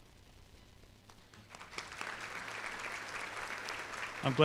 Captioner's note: applause